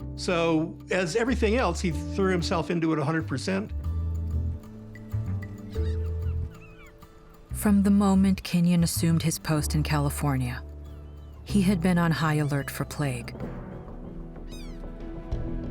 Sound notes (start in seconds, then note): 5.4 birds squawking